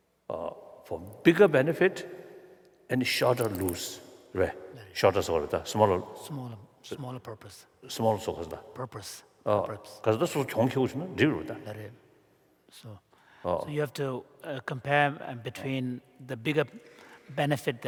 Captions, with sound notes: For bigger benefit and shorter lose-- [foreign language]-- >> Smaller purpose. >> Smaller-- >> Purpose. [ Foreign Language ] >> So you have to compare in between the bigger benefit